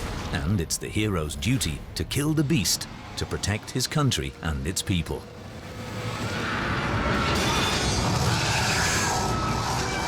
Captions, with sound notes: and it is the hero's duty to kill the beast to protect his country and its people. [dragon roars] [screeches]